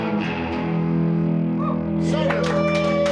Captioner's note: applause